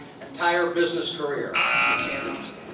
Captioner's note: buzzer; crowd talking